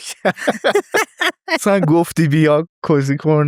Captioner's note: laughs